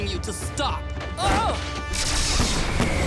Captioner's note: grunting